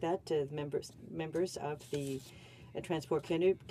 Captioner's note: speaking French